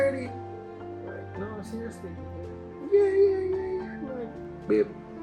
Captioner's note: imitating Lisa